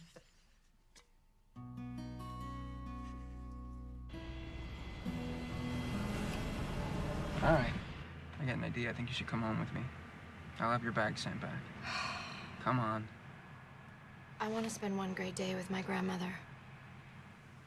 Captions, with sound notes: All right. I got an idea. I think you should come home with me. I'll have your bags sent back. [Sighs] Come on. I want to spend one great day with my grandmother.